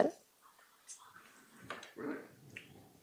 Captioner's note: static noise